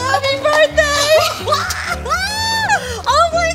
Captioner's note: exclaims